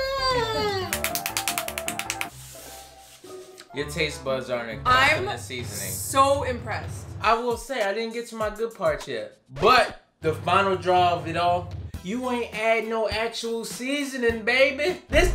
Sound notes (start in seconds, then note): 0.7 hands clapping